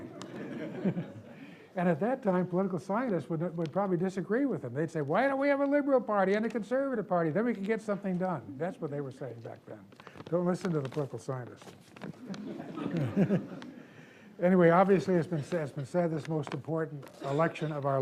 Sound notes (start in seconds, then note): 0.0 audience laughs; 0.0 laughs; 12.1 audience laughs